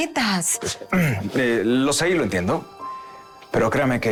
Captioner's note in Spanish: Carraspea